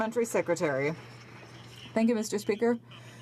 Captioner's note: some Applause